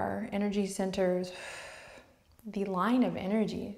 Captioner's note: exhales